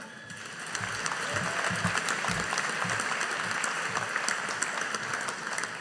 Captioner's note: audience applauding